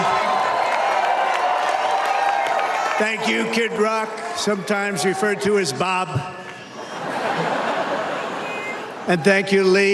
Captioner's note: crowd chanting usa